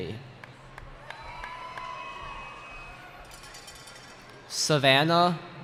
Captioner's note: cheering